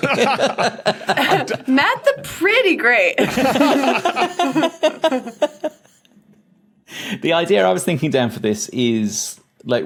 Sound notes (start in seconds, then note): 0.1 scattered laughter; 3.2 group laughing